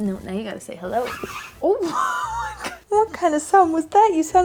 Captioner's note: screeches